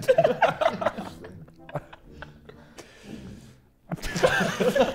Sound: Sidemen laughing

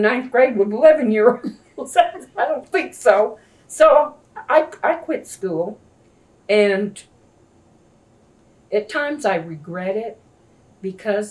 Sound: laughs

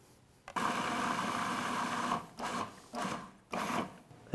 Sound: whirring

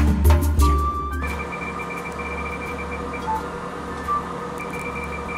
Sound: machine beeping

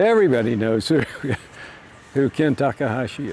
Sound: laughs

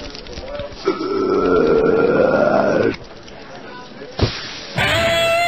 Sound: burps; electric guitar riff

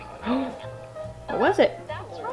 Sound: gasping

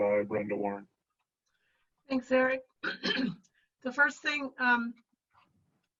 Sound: clearing throat

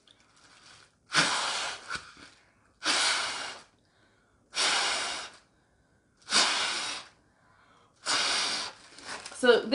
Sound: blowing

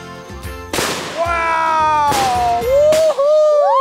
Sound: firework loudly retorts

